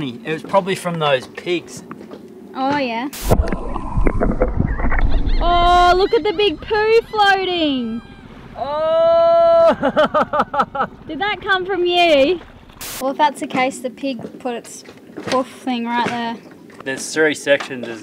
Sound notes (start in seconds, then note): 4.7 seagulls caw